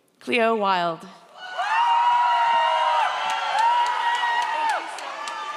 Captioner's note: audience cheers